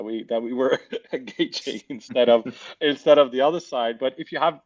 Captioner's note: laughs